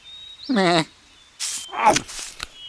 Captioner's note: sheep bleats dismissively; sheep munches and gulps